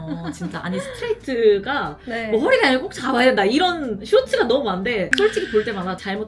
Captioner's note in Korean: 웃음